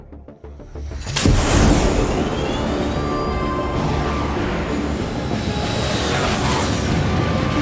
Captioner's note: dramatic music; fighter jet whooshes